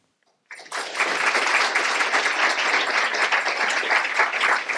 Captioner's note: applause